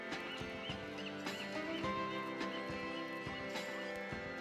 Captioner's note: seagulls calling